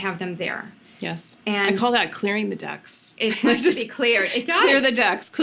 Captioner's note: laughs